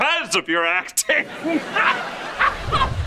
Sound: laughing

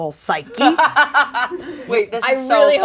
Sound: laughs

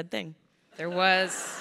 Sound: crowd laughing

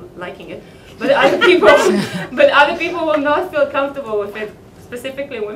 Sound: laughter

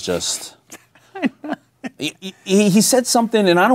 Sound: laughing

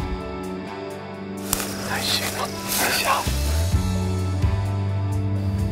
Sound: whispering

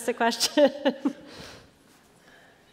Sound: laughter

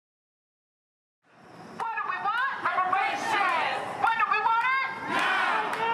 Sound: chanting

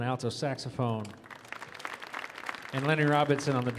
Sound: audience applauding

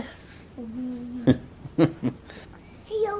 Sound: laughing

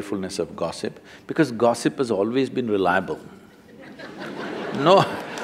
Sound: laughter

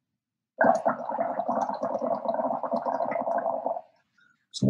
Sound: bubbling

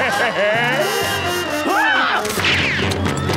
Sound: laughing; screaming

